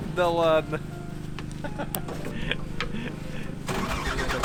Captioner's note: both laugh